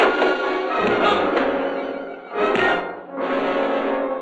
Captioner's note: punches thudding; Faust groans